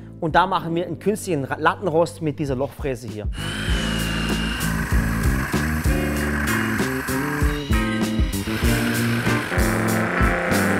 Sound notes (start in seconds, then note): 3.3 Lockere Musik; 7.5 Maschinengeräusche